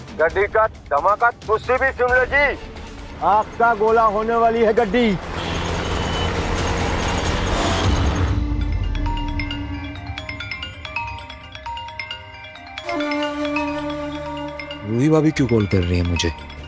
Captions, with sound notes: Well, just listen to the car exploding. The car is going to explode. [traffic sound] [phone ringing] Why is Ruhi calling me?